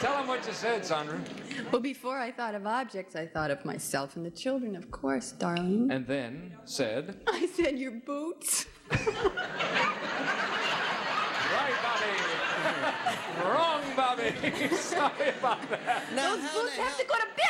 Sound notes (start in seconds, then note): 8.9 audience laughing; 12.8 laughs